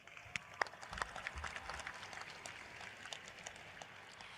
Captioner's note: applause